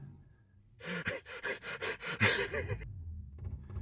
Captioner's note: uncontrollable giggling